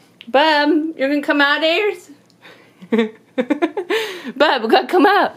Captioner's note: laughs